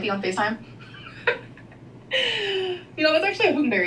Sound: laughing

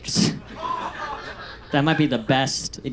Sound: audience laughs

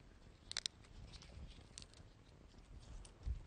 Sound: snapping

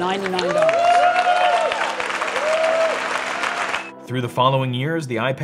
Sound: audience cheering; audience applauding

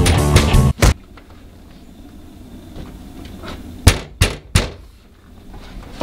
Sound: knocking

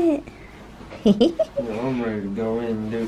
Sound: laughs

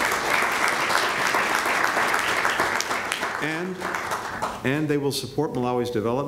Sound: applause

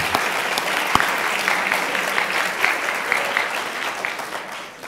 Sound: students applauding

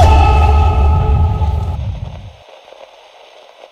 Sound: static rustling

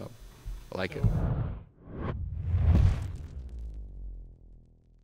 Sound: swoosh

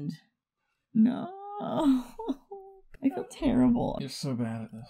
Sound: sobs

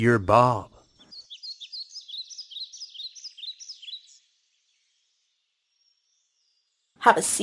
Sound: birds

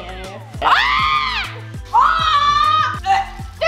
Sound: screams

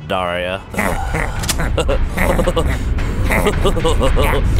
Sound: chortling; snickering

